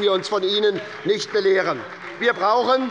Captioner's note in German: Beifall bei der SPD - Unruhe - Glockenzeichen des Präsidenten